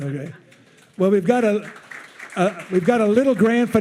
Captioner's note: attendees cheering